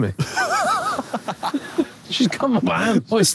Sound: Josh laughing

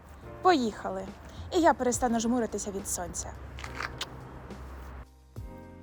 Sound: air kiss

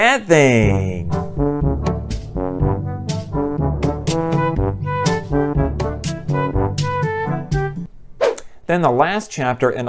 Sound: troll music; swoosh

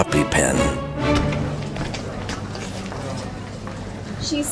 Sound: students chattering

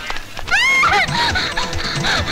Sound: screams

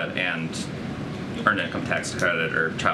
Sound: none

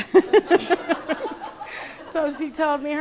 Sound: laughing

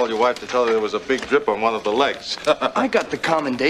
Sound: laughs

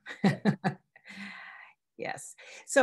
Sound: laughs

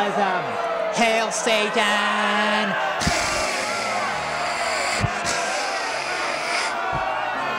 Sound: Tabby hisses; audience boos

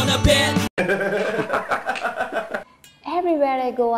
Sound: laugh

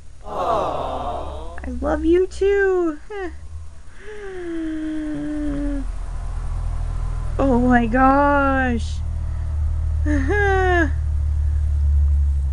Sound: huge gasp of affection

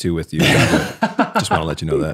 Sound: innocent chuckles

